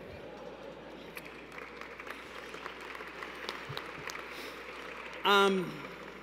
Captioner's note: applause